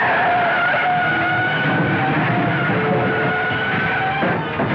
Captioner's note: tires screech